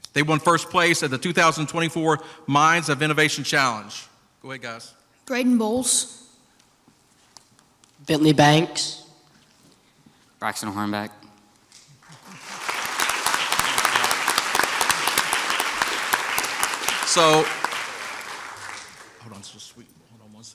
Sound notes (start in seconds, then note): 12.0 crowd applauds